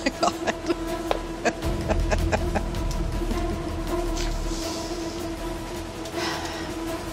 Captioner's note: chuckling; dramatic music